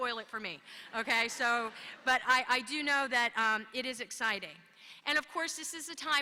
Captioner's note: laughter